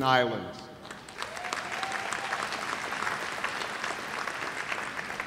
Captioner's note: cheers and applause